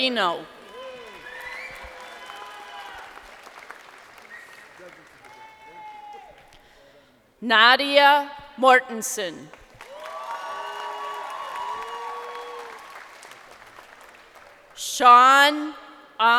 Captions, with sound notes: Jovan Nelson Moreno. (crowd cheering) Nadia Mortinson. (crowd cheering)